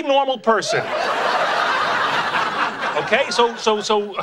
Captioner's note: audience laughing